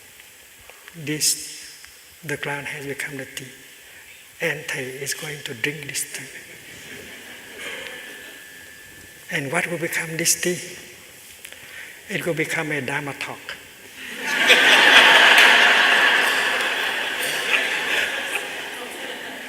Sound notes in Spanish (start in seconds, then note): 6.5 Risas